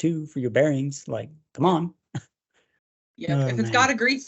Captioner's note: chuckles